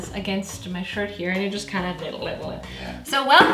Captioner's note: dribbling noise